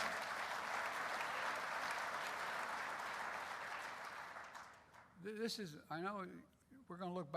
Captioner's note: applause